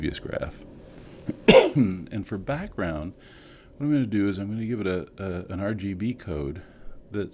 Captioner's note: cough